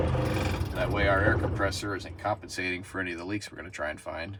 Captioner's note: engine shutting off